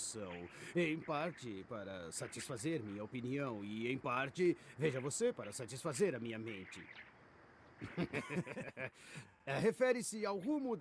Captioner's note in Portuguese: risadas